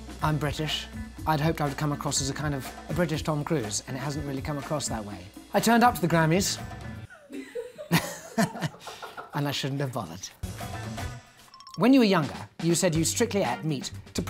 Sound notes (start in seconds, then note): 6.9 upbeat music ends; 7.1 laughing; 9.2 upbeat music; 11.5 ringing